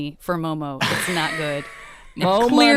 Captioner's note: laughing